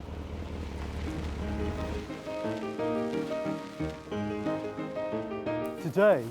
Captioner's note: car engine roaring